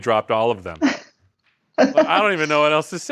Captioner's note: laughs